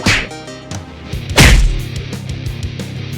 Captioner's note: sounds of a fight